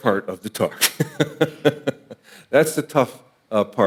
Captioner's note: laughing